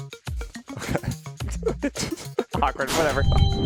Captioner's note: both laugh